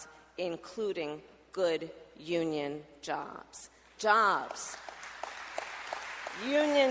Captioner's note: applause